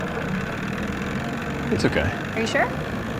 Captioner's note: engine sputters